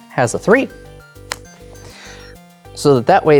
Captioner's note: cards slap